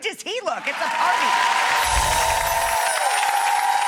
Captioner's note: audience cheers; bell chimes; audience applauds